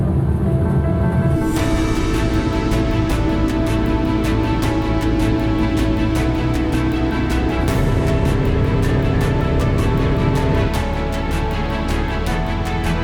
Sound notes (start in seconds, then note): 0.1 dramatic orchestral music; 8.3 equipment humming